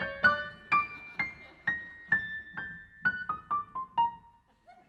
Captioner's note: audience laughing